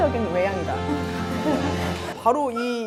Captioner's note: haha